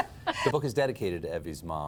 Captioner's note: laughter